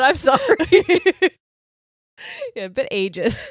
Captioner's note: all laughing